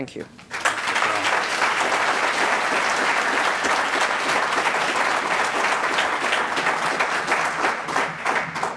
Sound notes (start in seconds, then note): 3.5 applause